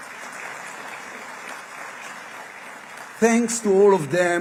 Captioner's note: applause